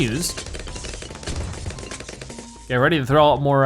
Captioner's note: weapons firing